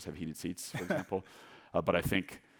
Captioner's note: laughing